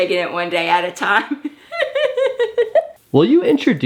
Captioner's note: laughs